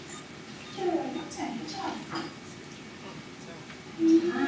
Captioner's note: speaking faintly